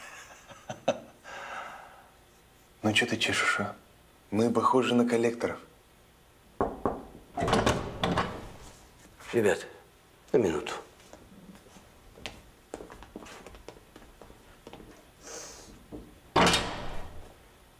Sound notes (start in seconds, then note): 0.0 laughs; 6.6 knocks on door